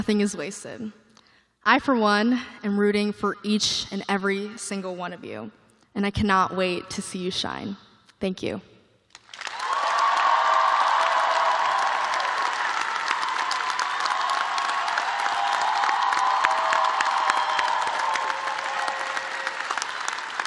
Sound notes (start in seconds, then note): 3.8 cheers and applause